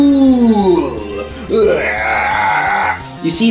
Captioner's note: laugh of the damned yet again